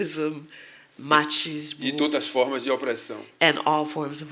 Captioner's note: speaking portuguese